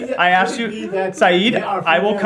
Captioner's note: laughter